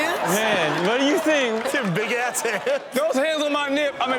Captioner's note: laughing